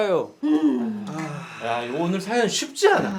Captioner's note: deep sigh